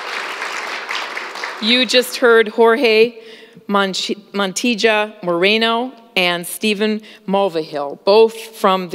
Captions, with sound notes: [ APPLAUSE ] ≫ YOU JUST HEARD JORGE